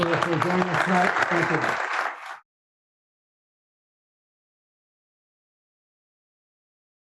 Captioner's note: audience applauding